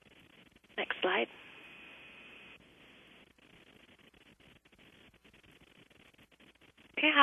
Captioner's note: pause